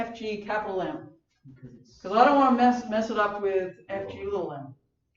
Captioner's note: laugh